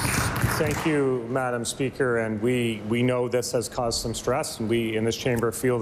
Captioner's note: applause